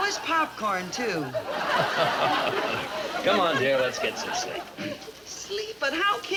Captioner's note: laughs